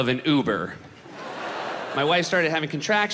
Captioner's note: crowd laughs